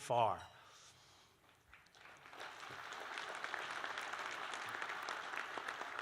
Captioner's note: applause